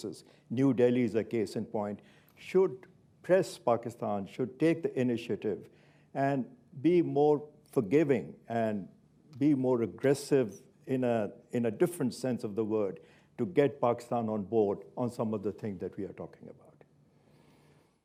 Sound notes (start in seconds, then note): none